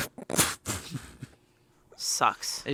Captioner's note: chuckles